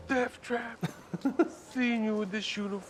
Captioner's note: man laughing